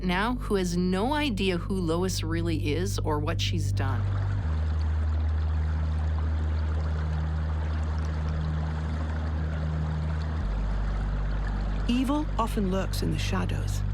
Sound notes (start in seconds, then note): 4.1 gentle brooding music; 4.1 water burbling